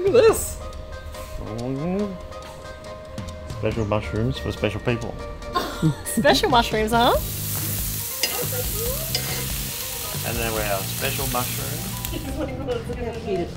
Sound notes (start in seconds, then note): 6.8 grill sizzling